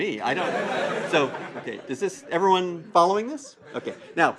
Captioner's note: laugh